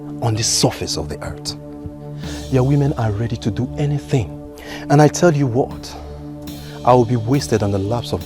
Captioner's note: snorts